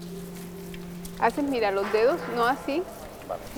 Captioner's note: speaking Spanish